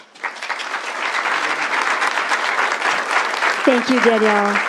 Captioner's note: applause